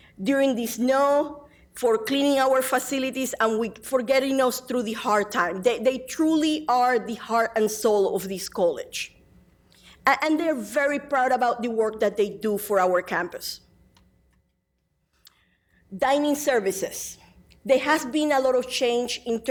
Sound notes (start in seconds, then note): none